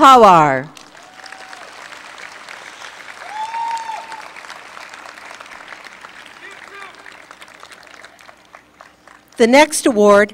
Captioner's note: applause